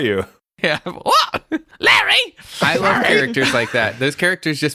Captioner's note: Petra voice